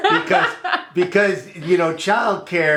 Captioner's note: laughs